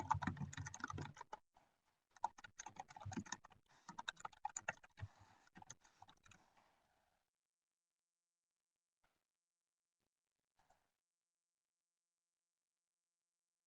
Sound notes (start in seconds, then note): 0.0 keyboard tapping